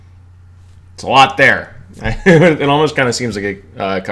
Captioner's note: laughs